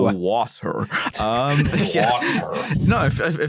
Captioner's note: laughter